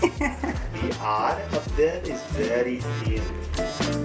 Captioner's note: laughs; in Portuguese; laughs